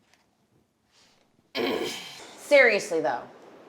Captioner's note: grunting